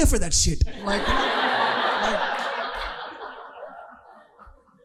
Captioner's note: audience laughing